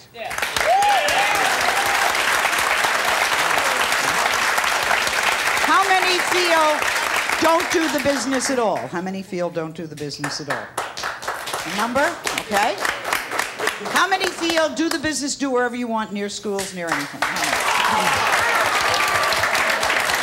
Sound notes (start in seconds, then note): 0.1 audience clapping; 10.2 handful of people clapping; 16.8 audience clapping